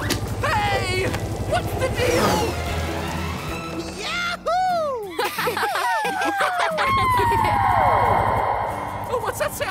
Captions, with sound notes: Hey! What's the deal? Yahoo! [laughing and howling] What's that sound?